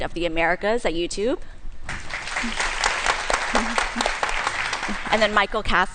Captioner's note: applause